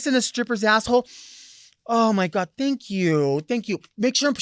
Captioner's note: sniffing